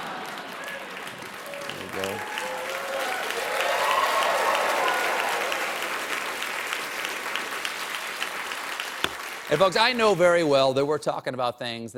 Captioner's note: cheers and applause